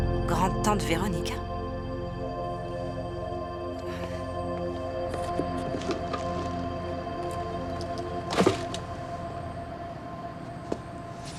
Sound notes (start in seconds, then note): 3.8 sighs